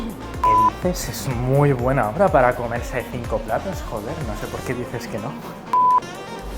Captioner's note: sarcasm